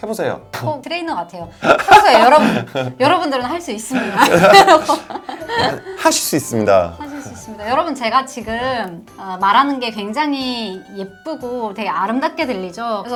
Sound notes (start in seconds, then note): 1.6 laughs